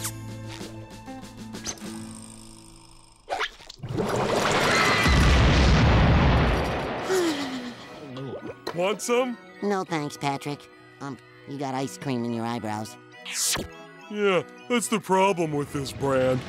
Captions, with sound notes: [sighing] - Want some? - No, thanks, Patrick. Um, you got ice cream in your eyebrows. Yeah, that's the problem with this brand.